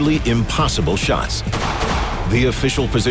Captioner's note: gun shots